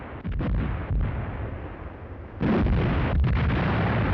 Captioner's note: bombs exploding